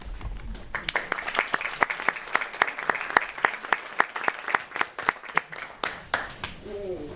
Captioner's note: applause